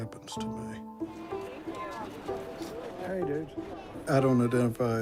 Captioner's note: crowd chatters